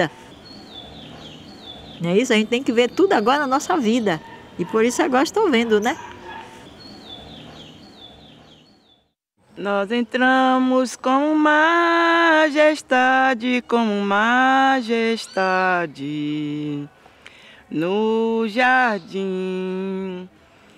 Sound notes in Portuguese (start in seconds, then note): 0.3 chilrear de pássaros; 6.5 chilrear de pássaros; 10.2 cantando